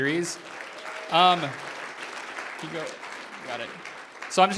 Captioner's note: applause